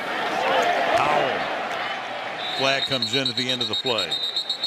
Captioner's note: announcer on loudspeaker